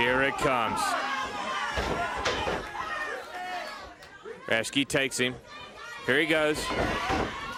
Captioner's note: crowd chatter